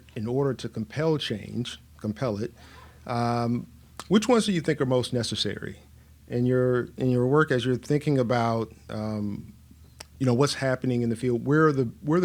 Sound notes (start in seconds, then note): none